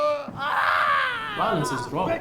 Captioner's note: screams of pain